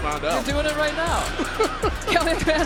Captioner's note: laughs